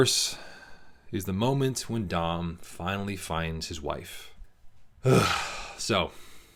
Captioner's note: deep breath